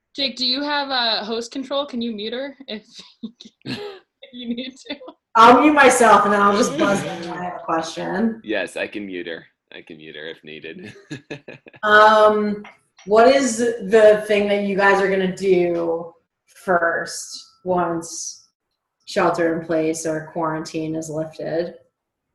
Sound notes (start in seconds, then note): 6.0 laughs; 11.4 laughs